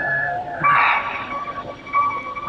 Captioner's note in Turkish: İç çekme